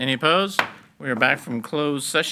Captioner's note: gavel pounds